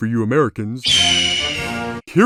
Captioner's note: eagle sound effect